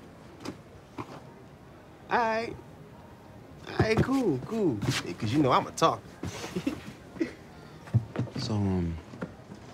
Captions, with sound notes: A'ight. A'ight, cool, cool. Yeah, 'cause, you know, I'm a talker. (Chuckles) So, um...